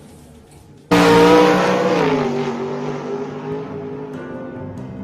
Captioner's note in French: Vrombissement